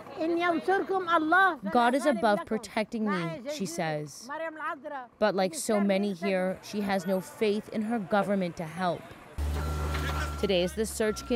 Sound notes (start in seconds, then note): 5.2 speaking Foreign Language